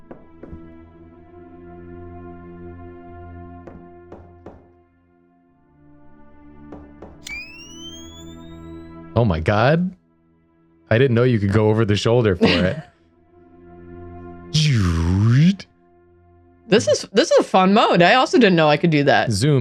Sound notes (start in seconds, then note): 14.4 action sound effect